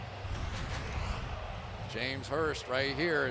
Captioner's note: swoosh